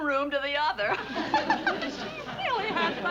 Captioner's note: laughing